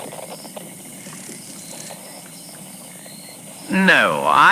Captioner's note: dragonflies flying by fx